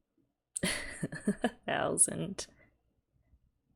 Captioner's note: laughs